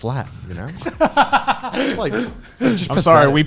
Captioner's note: laughing